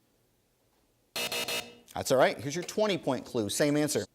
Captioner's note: three buzzes